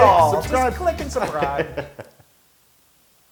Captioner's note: laugh